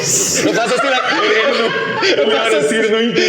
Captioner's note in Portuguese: Risadas